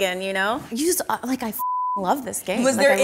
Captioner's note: beep